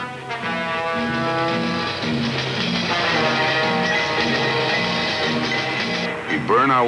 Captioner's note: train moving